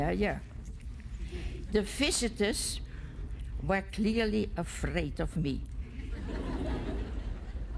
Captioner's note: laughter